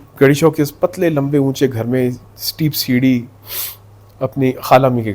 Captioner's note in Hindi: नाक से की जाने वाली आवाज़